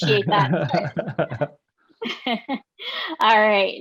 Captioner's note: laughing